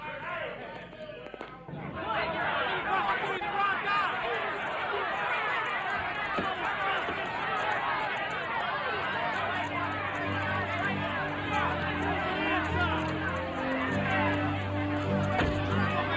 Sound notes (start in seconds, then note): 0.0 officer applauding; 5.6 crowd clamoring; 11.0 crowd continues clamoring; 11.0 dramatic music